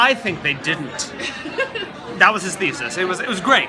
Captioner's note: laughs